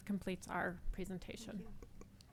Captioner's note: none